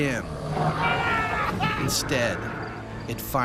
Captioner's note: voiceover; screaming